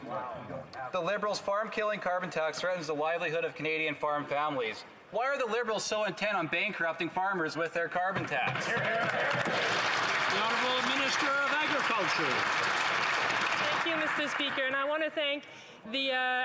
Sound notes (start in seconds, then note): 11.8 some Applause